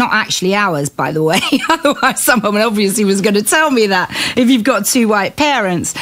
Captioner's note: laughing